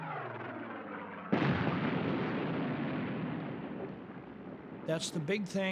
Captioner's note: explosion